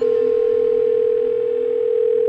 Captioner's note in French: Sonnerie de téléphone, Ringtone